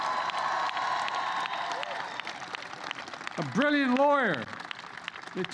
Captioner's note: applause